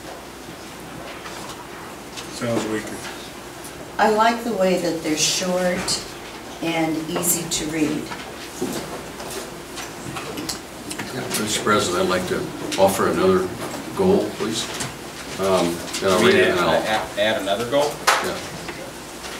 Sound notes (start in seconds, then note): 15.8 overlapping chattering